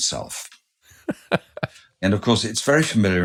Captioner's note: laughing